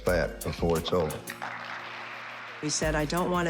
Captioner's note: audience applauding